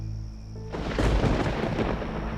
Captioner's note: thunder